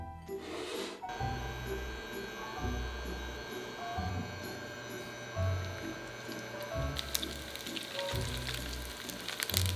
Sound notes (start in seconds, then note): 1.2 burner humming; 7.1 sizzling